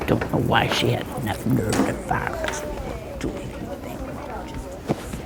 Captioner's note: Winky mutters